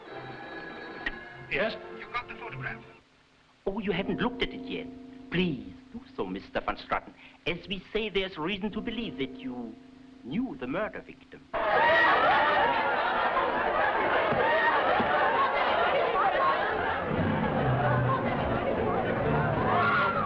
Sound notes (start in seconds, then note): 0.1 phone ringing; 11.5 partygoers shouting and laughing; 16.3 dramatic music